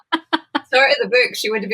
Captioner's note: laughs